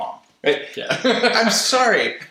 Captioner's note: laughter